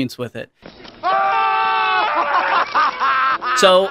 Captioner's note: brokers screaming